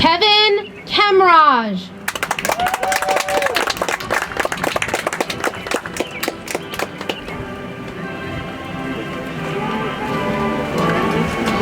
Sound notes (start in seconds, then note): 2.0 audience applauds; 6.0 soft music